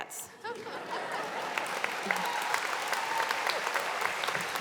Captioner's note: audience applauding